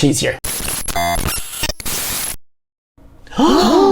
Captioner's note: static hissing; all gasping